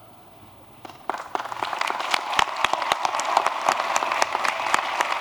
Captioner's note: applause